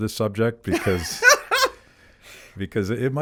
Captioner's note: laughs